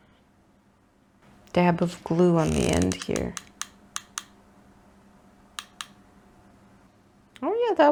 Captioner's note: glue gun creaks menacingly